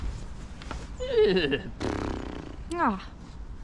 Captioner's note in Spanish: Hace sonido de caballo